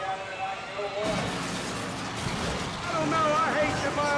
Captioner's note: buses crashing